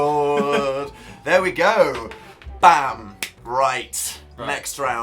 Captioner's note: clap